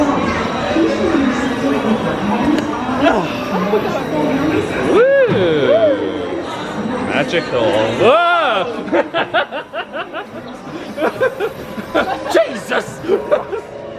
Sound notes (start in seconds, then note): 8.0 shrieks; 9.2 laughing